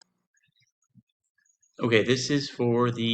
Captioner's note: silence